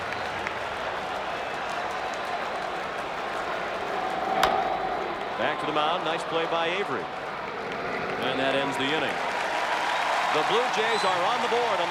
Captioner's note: applause